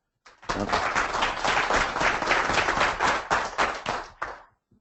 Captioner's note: applause